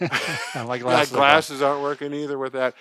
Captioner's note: laughs